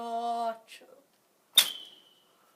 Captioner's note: Arrow whizzes by... Not The Arrow just an arrow